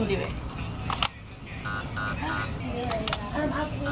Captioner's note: beep